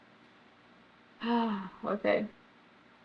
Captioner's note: sighs